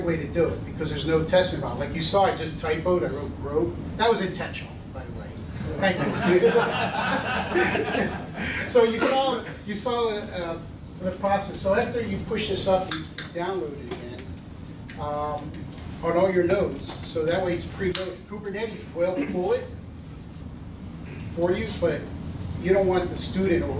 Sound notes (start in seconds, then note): 5.7 laughter